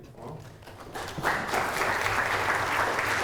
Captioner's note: audience applause